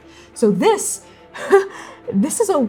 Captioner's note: mirthless laughing